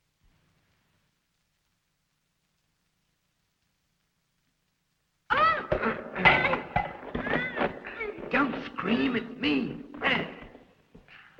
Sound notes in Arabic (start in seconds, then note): 5.3 لورا تصرخ